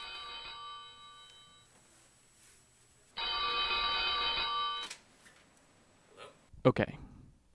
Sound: phone ringing

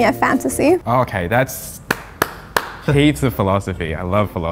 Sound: claps

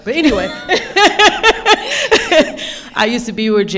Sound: laughing

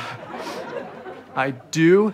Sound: sniffs

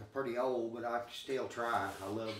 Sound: chuckling

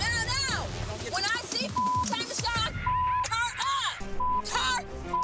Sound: beep; beep

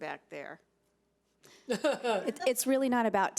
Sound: people laughing

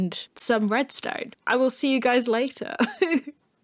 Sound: giggle

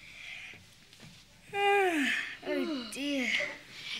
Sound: yawning

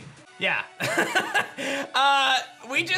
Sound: laughs

